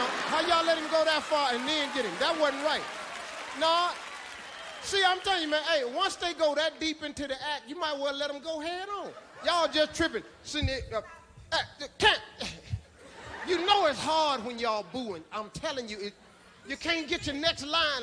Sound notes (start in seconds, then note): 0.0 audience laughing; 11.3 stammering; 13.0 audience lightly laughing